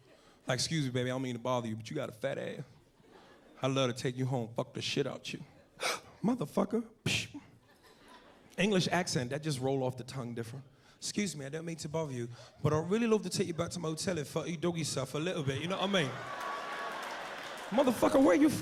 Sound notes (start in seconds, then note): 5.8 gasps; 10.6 Cockney accent